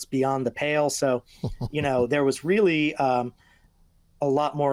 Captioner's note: laughing